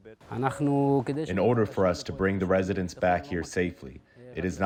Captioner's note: through translator